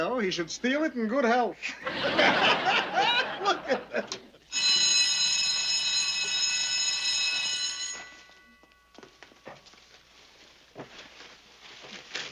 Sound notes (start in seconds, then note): 3.4 laughter; 4.5 bell ringing